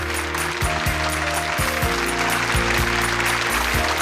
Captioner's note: applause